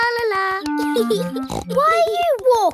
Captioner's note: laughs and snorts